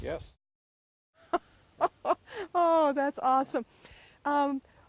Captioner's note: laughing